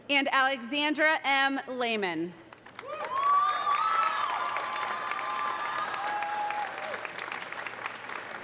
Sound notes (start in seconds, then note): 2.6 audience applauding; 2.8 audience cheering